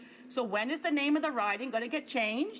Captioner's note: speaking in french